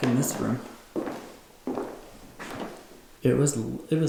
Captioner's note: footsteps